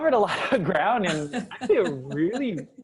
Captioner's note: laugh